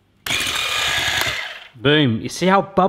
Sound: whisks

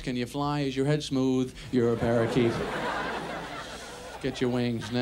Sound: audience laughs

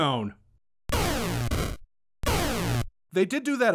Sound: weapon firing

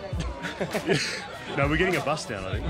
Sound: laughs

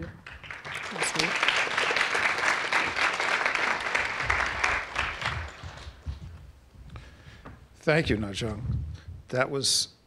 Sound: applause

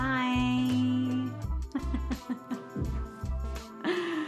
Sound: laughs

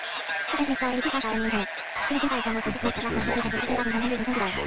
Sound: people speaking gibberish

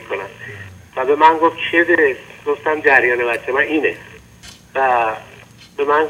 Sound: speaking in foreign language

